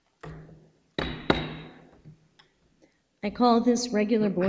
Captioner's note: gavel taps